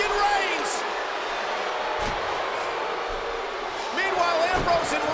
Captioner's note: crowd boos